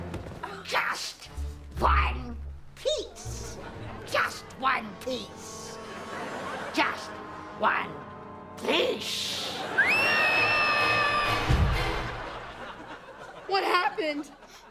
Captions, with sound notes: Just one piece. Just one piece. Just one piece. [screaming] What happened?